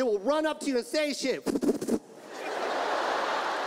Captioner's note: makes fluttering noises; audience laughs